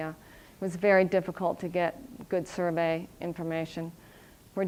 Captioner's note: none